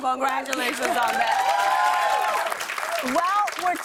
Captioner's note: cheers and applause